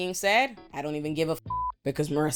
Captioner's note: beep